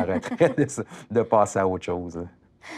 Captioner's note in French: rires